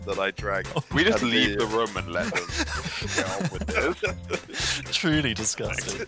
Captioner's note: laughing; laughter